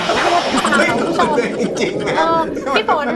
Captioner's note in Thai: หัวเราะ